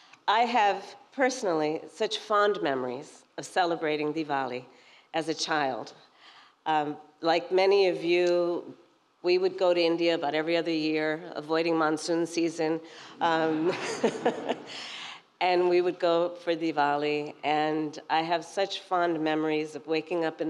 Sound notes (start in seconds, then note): 13.5 laughter